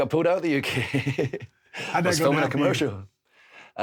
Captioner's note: Drew chuckles